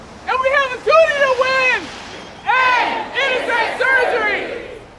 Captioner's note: chanting